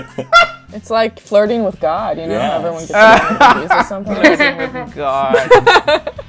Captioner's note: laughter; laughter